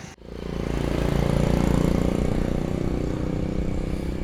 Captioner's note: traffic noise